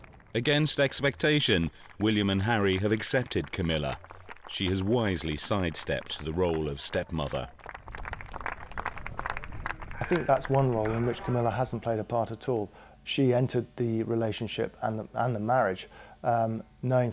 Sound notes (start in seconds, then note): 8.1 audience applauding